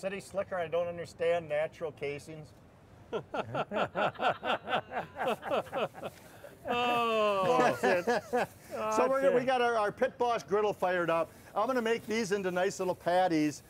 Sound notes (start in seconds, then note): 3.1 laughter